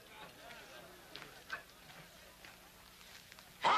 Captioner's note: men chattering